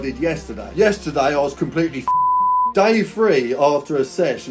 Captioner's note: beep